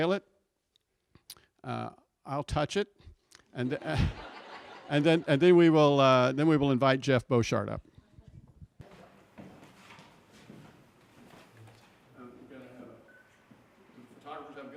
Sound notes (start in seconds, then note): 8.0 silence